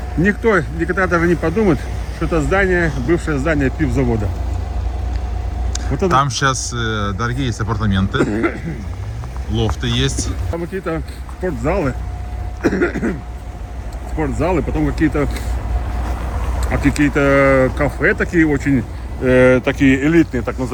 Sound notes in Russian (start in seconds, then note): 9.0 откашливается; 12.4 кашель